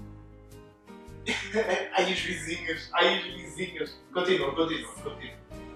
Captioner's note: laughs